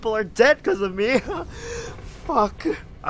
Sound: fearful chuckle

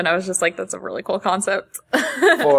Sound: laughs

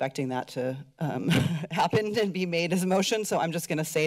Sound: laughs

